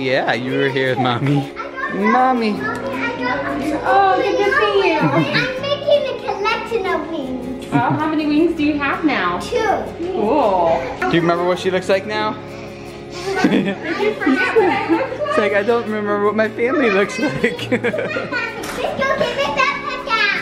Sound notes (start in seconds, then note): 2.3 excited children